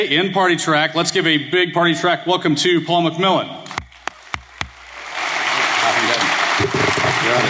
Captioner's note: applause